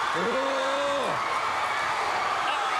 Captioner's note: crowd cheering